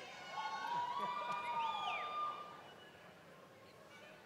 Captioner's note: cheering